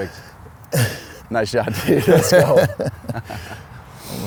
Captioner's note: laughs